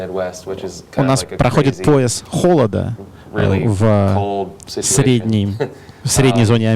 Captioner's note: chuckles